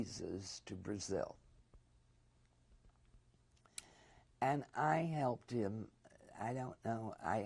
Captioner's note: pauses for 3 seconds